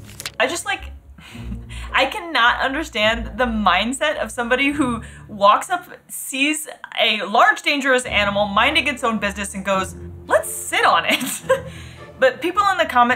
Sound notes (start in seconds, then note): 11.4 laughs